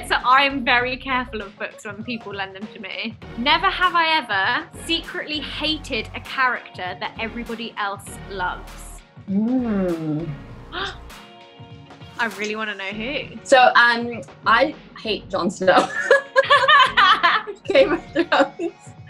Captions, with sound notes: So I'm very careful of books when people lend them to me. Never have I ever secretly hated a character that everybody else loves. - Hmm. (gasps) - I really want to know who. - So, I hate Jon Snow. (laughter) From Game of Thrones.